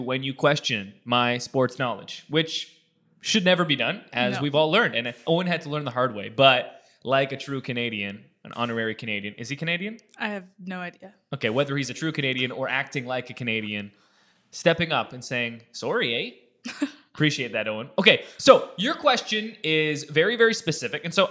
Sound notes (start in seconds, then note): 16.8 laughs